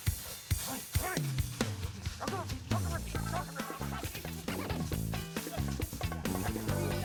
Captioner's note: both grunting